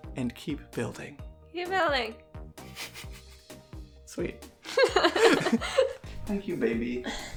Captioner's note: mumbles; both laugh